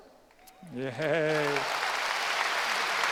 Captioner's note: applause